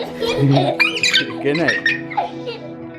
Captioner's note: giggling